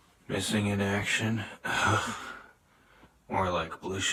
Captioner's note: scoffs